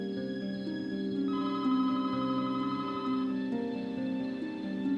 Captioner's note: telephone rings